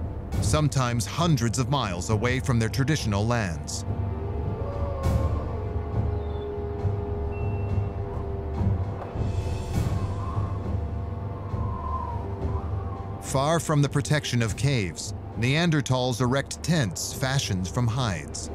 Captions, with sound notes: Sometimes hundreds of miles away from their traditional lands. [wolf howling in distance] [ominous music] [wind howling] Far from the protection of caves, Neanderthals erect tents fashioned from hides.